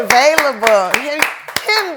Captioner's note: applause